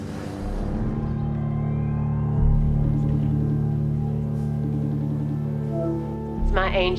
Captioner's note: sinister music; phone ringing